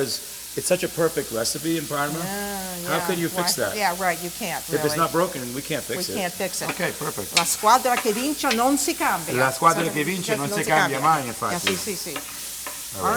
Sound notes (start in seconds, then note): 7.4 speaking Italian; 9.3 both speaking Italian